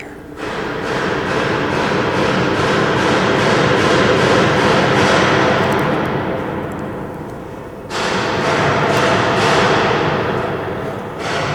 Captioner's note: really loud banging